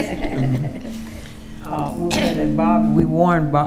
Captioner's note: attendees laughing; microphone feedback obscuring voice